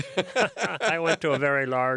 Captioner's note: both laugh